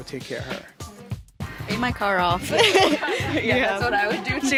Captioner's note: all laugh